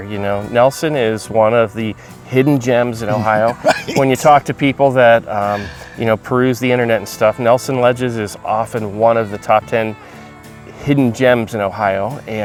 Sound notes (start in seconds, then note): 3.0 laughing